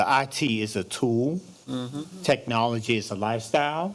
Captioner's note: microphone static